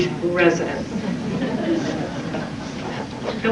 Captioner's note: chuckling